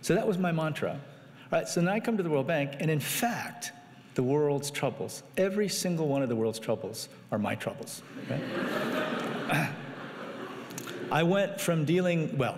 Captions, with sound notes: So that was my mantra. So now I come to the World Bank, and in fact, the world's troubles, every single one of the world's troubles are my troubles. (audience laughing)